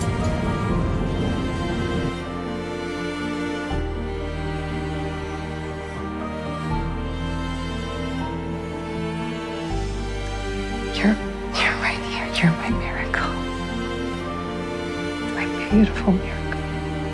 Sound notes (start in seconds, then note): 10.9 voiceover